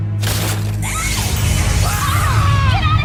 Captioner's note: screaming